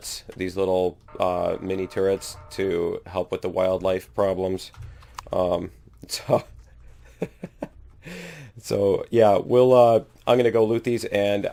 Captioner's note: laughs